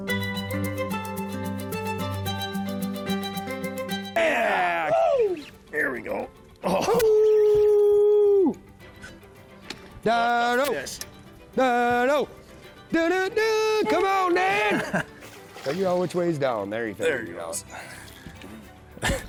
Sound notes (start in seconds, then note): 0.0 bright inspiring music; 7.2 howls